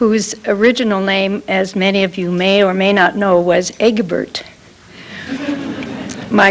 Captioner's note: laughter